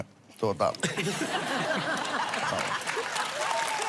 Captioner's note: laughter, Applause